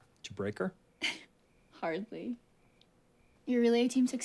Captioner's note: giggles